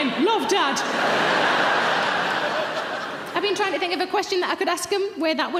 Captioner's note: audience laughs